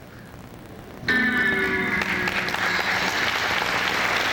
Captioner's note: applause